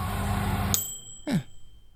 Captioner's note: 'aaaaaah'; microwave sound